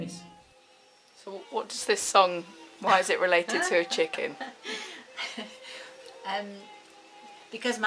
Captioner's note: woman laughs